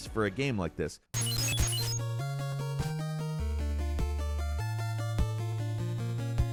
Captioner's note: attacks beeping; upbeat music